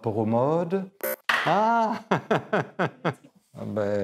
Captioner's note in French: rire